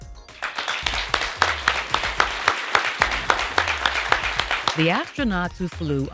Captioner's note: applause